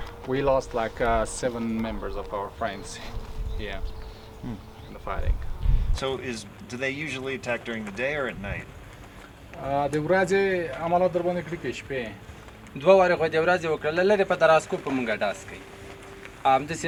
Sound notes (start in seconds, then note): 9.7 translator speaking in a foreign language; 12.6 speaking in a foreign language